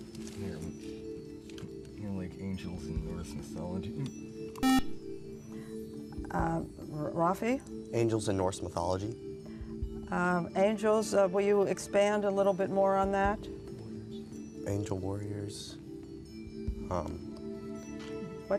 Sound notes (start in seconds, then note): 4.6 beep